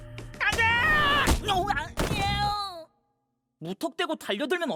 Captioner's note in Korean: 괴로움의 탄성